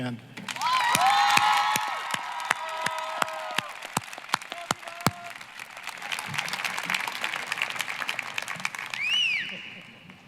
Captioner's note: applause, cheering